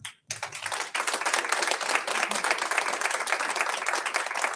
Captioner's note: audience applauds